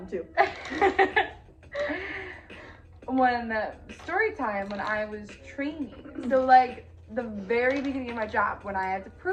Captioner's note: laugh